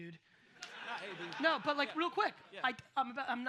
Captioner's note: audience laughs